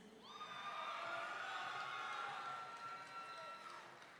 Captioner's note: audience cheering